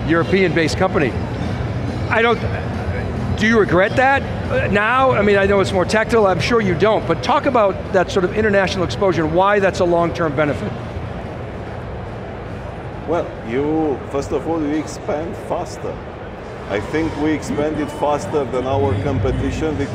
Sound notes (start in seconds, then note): 2.7 stutters